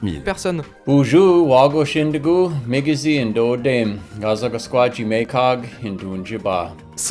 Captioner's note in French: Le bel homme parle en Ojibwe